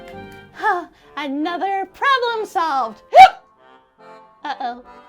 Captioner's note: hiccups